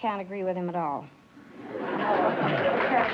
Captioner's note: applause